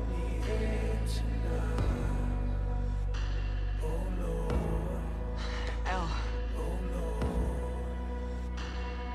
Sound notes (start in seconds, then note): 5.4 sighs